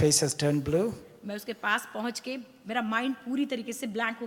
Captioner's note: speaks foreign language